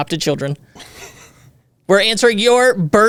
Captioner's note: laughs